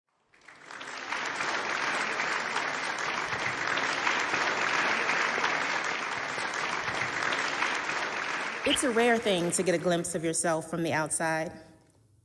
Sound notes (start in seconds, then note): 0.6 audience applauding